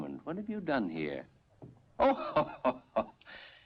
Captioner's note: laughs